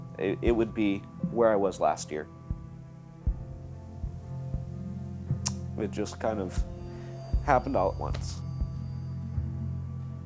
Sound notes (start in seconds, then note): 5.4 clicking tongue